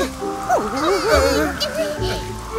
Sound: wind blows

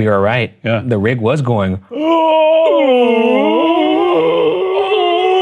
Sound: groaning

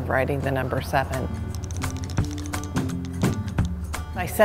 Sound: brush tapping

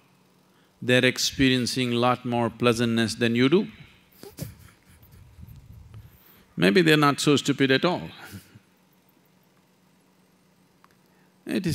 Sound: laughs

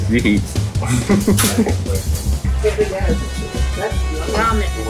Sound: background chattering

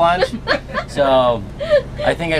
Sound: laughing

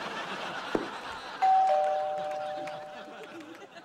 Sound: doorbell ringing

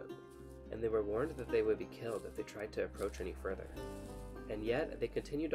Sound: footsteps

